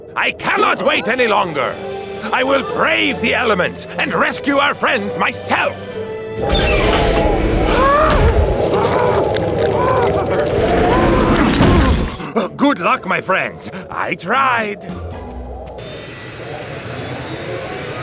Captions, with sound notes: - I cannot wait any longer. I will brave the elements and rescue our friends myself. (wind blowing) Good luck my friends, I tried.